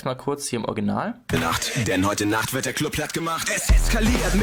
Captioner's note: pitched voice